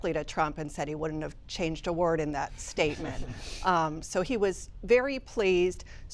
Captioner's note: laughter